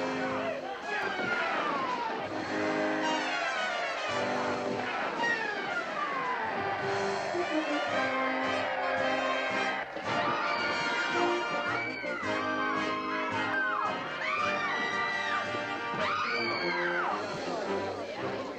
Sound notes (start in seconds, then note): 7.1 cheering; 10.6 screaming